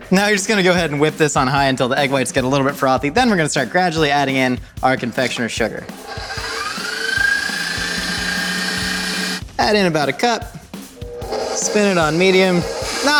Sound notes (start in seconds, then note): 5.9 blender grinding